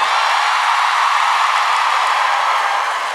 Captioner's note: cheering